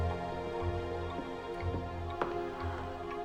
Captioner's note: sighs